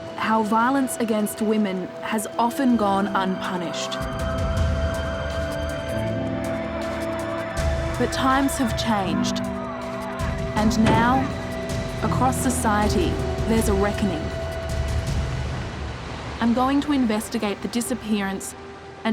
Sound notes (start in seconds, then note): 4.0 dramatic music; 4.0 siren wails